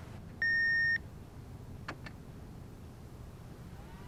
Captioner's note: beeping